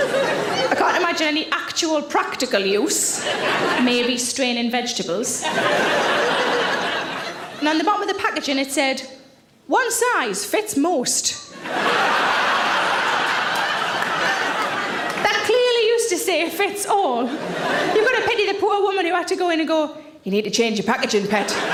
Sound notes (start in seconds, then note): 0.0 audience laughs; 5.4 audience laughs; 11.5 audience laughs